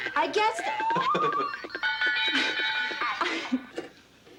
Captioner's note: Casey laughs